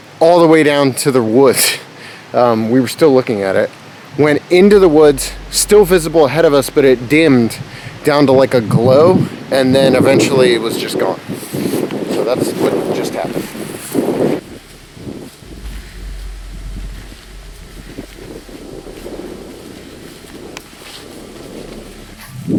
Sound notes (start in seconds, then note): 15.0 wind gusting; 17.5 mysterious music; 17.5 wind gusting